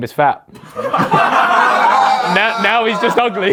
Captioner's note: audience laughs; laughs